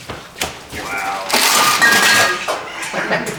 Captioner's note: bottles clanking